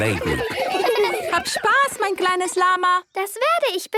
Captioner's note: laughter; speaking German